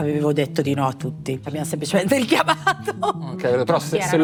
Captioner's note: laugh